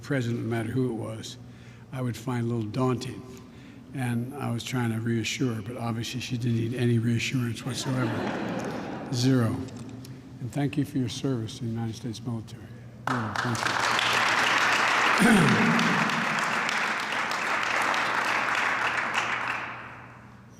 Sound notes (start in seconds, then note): 7.6 laughter; 13.0 applause